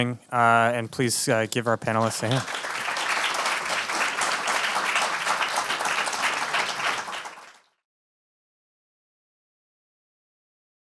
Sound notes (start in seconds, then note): 1.8 audience applauds